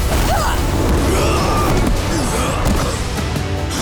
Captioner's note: grunting; groaning